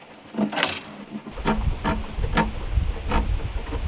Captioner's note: pen scraping